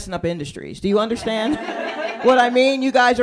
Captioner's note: laughter